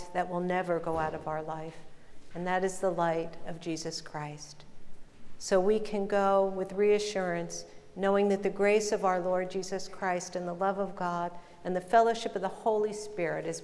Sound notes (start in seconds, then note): none